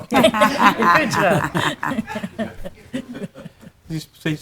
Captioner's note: group laughter